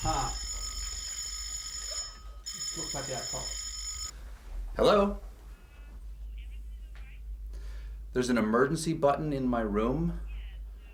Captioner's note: phone ringing